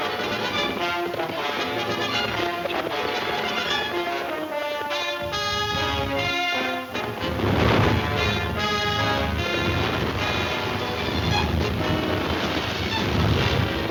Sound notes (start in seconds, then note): 7.0 crashing